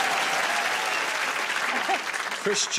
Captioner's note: laughter; cheers and applause